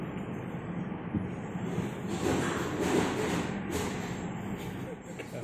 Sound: rumbling noises and cat hissing

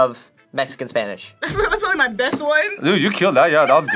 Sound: laughs

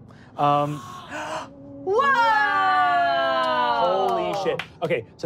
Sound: gasping

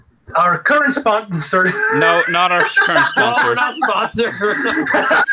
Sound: laughter; group laughing

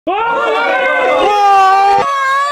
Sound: crazy hooten and holleren

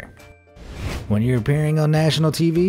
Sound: air whooshing

